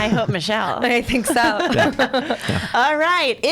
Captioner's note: laughs